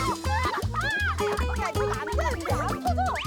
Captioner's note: bouncing